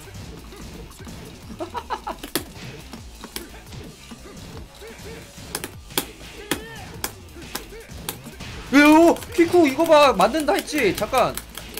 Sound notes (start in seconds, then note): 8.7 yelling